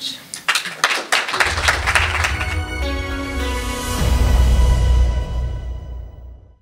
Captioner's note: applause; lively music